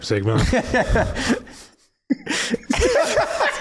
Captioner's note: laughs